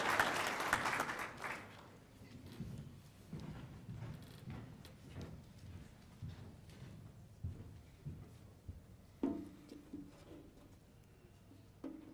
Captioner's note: cheers and applause